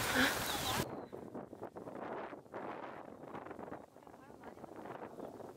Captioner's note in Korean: 거센 바람 소리 🎧🙉